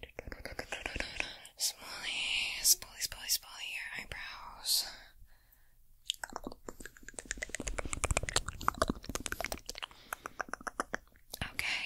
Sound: mouth Sounds and Glove Sounds

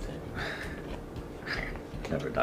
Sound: smug laughter

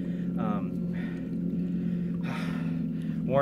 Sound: deep breaths

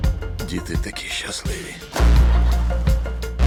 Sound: laughing

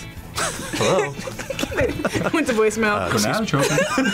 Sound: laughs; both laugh

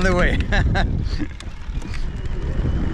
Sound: laughs

